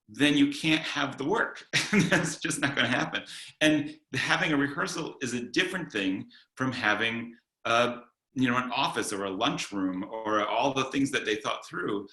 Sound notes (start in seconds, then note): 2.1 laughing